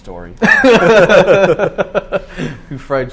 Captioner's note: laughing; laughs